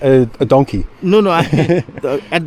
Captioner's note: chuckles